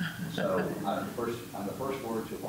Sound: laughter

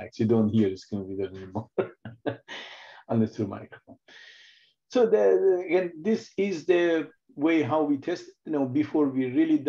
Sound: laughs

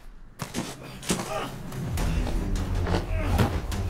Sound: thudding

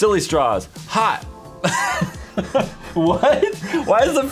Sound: laughs

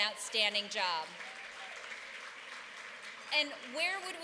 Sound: applause

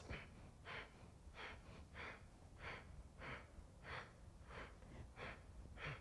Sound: quick breaths

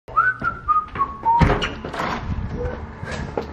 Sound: whistling

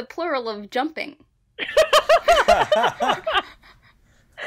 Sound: laugh

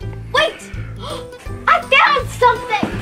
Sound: gasps

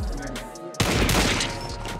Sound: two gunshots

